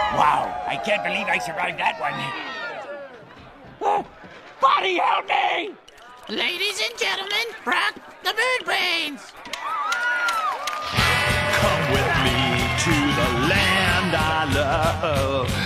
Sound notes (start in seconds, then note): 3.6 whimpering; 7.4 squawking